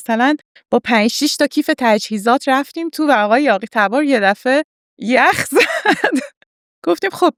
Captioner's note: laughs